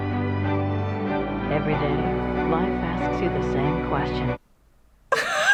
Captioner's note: voice-over; laughs